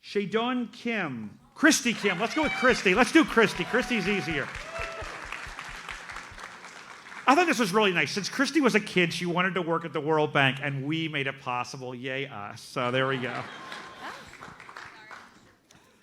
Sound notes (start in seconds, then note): 5.7 audience applauds; 13.0 audience laughs